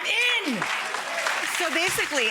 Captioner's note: audience applauding